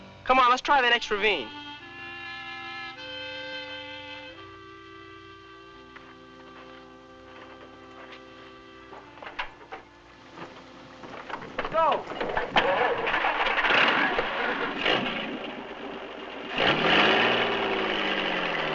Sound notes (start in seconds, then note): 13.0 car engine running